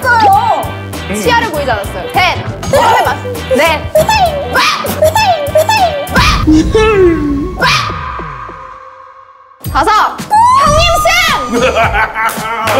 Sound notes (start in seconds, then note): 4.9 squeaking; 11.4 yes! Laughing